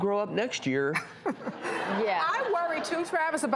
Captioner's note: audience laughs